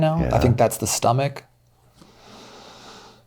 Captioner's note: exhales